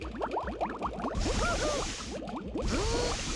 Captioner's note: water bubbling; groaning